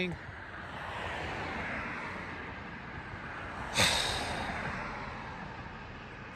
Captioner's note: sighs